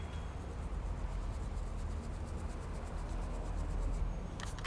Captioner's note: brush scrubbing